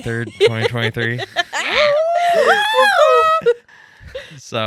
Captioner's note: cheering